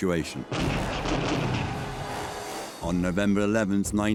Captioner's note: cannons firing